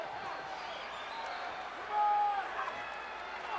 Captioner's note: crowd Cheering